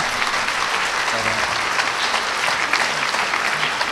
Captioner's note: applause